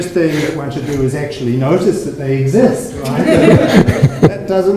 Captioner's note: audience laughs